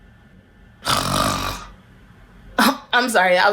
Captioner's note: snores